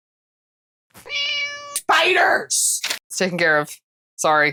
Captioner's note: meow